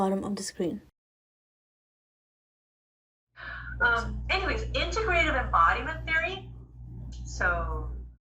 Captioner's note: recorded Lecture playing